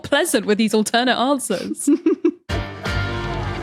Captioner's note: giggles